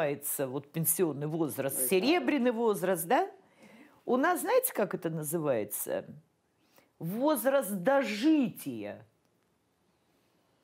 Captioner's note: speaking russian